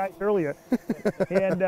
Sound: laughs

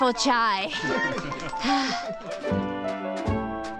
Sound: laughing

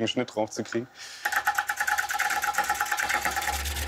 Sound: fast clacking

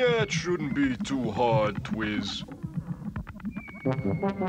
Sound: airship rumbling

